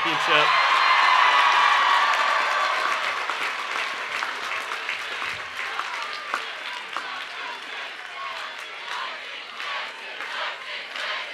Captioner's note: cheering and Applause